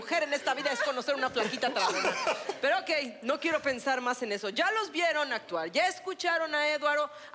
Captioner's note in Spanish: Risas